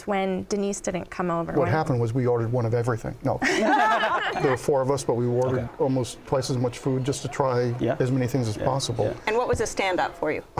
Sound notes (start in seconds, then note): 3.4 laughter